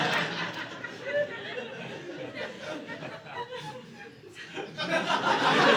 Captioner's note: audience laughing